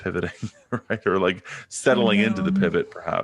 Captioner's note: laughing